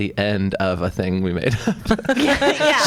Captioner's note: laughs